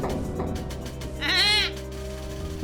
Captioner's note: nervous bleating